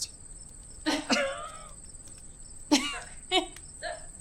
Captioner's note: all laughing